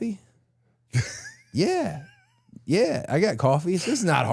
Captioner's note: Dallas laughing